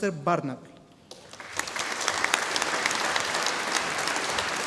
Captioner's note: audience applauding